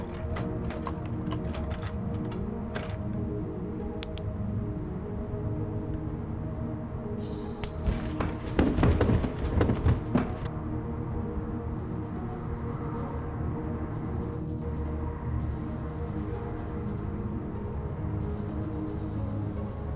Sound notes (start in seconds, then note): 7.6 flashlight sparks out; 7.7 falling down stairs